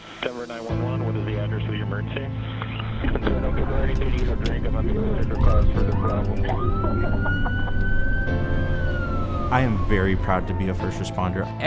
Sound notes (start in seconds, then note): 3.1 emergency radio chatter; 5.5 sirens wailing